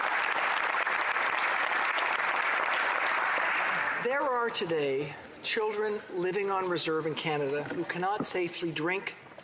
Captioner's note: applause